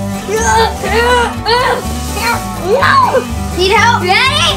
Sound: grunts

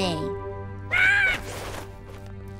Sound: squawking

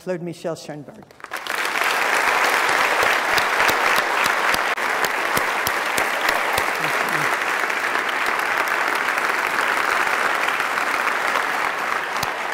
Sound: applause

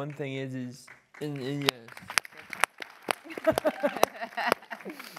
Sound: audience applause

